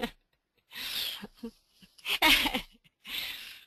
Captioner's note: laughs